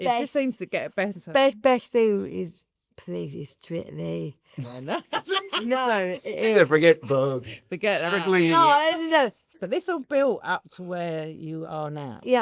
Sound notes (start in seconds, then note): 4.7 laugh